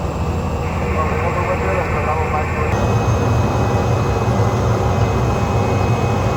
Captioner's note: air traffic control speaking Spanish